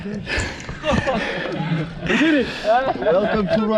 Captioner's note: panting